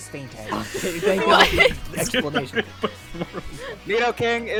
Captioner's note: laughs